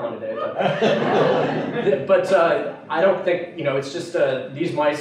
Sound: laughter

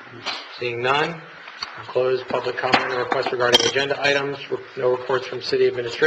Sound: gavel

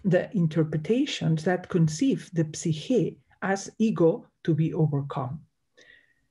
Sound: speaks in Greek

